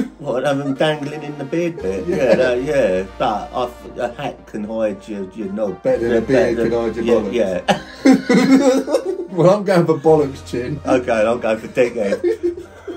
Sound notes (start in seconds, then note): 7.5 both laughing; 11.8 both laughing